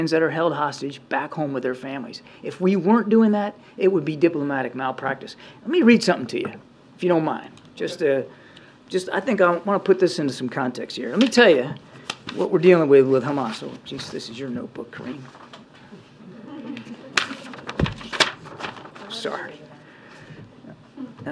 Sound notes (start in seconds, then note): 16.2 laughter